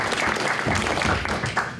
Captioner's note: audience applauds